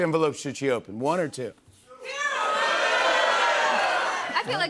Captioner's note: audience shouting "two"